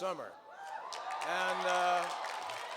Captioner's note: cheers and applause